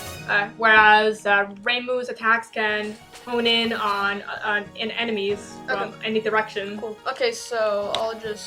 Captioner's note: stammers briefly